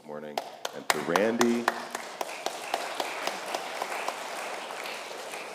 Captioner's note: congregation applauds